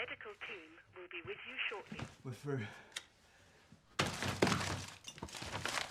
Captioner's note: intercom